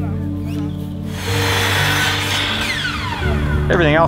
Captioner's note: power tools